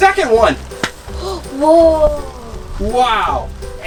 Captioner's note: gasps